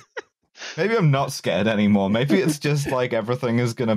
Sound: laughter

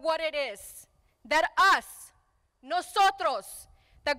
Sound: speaking in foreign language

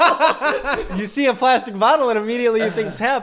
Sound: both laugh out loud

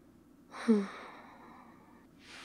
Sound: sighs

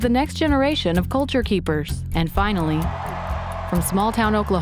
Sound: crowd cheering

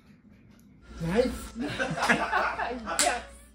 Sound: laughter

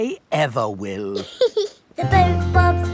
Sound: giggles

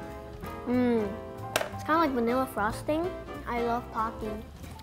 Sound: clank

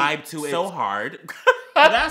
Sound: gay ass laugh/giggle

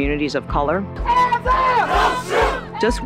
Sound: chanting

